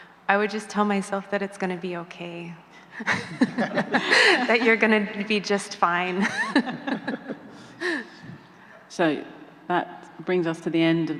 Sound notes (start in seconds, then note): 6.2 chuckling